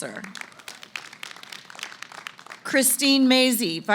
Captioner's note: applause